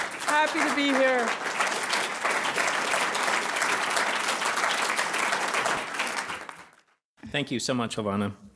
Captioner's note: applause